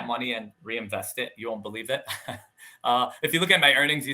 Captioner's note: laughing